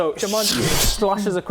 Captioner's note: slash